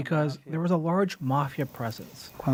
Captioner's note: speaking alternate language